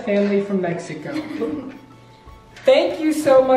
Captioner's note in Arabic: تضحك